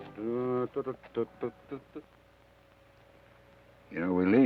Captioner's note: Joshua hums melodically